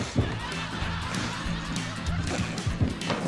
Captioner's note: laughter